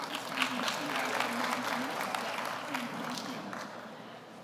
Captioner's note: audience applauds